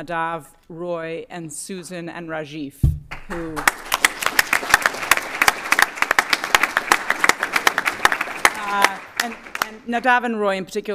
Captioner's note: applause